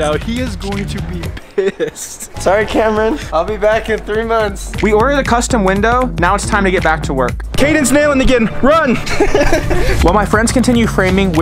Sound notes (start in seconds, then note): 8.9 laughing